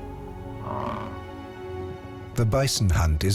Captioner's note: bison grunts